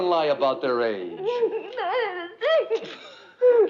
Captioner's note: sobbing